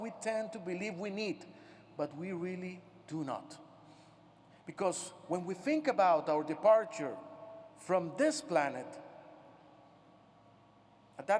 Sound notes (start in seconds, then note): none